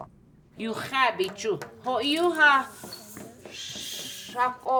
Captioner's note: speaking Lakota